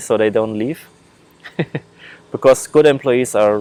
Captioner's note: laughing